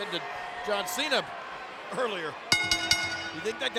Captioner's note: bell ringing